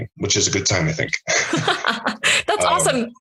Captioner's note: both laugh